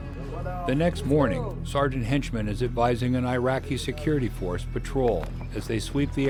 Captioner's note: voiceover